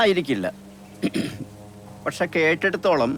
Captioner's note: clears throat